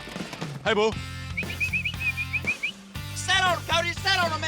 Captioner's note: whistles